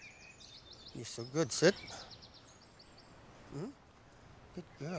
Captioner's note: birds chirping